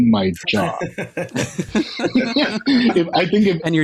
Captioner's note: laughter